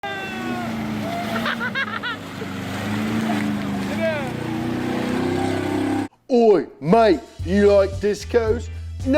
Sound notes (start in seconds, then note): 0.0 people cheering; 0.0 car engine rumbles